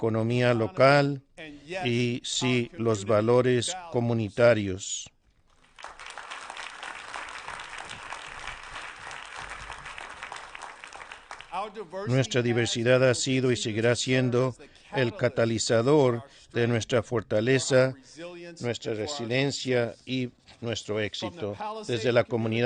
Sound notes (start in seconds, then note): 8.9 applause